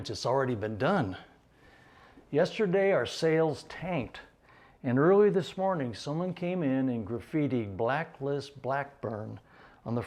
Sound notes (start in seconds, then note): none